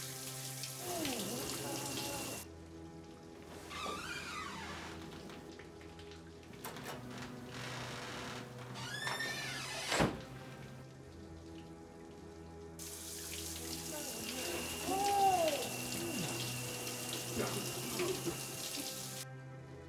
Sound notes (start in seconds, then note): 0.0 water rushing; 3.4 door creaks open; 6.1 dark ominous music continues; 8.6 door thuds shut; 12.8 water rushing; 17.4 dark ominous music continues